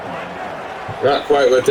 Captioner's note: crowd Noises